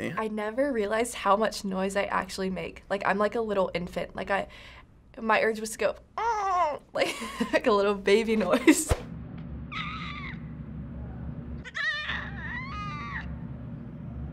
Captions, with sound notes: - I never realized how much noise I actually make. I'm like a little infant. My urge was to go... (groaning)... like a little baby noise. - (goat bleating)